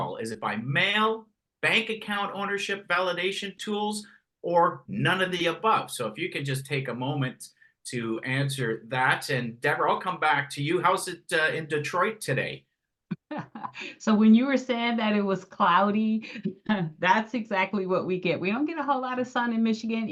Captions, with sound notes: Is it by mail? Bank account ownership validation tools? Or none of the above? So, if you can just take a moment to answer that. Debra, I'll come back to you. How's it in Detroit today? [haha] So when you were saying that it was cloudy, thats exactly what we get. We don't get a whole lot of sun in Michigan